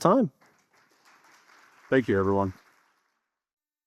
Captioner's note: audience applauding